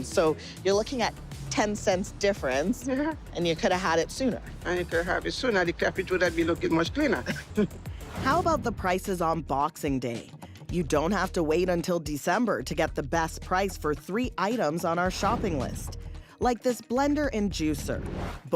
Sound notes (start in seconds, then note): 7.2 chuckles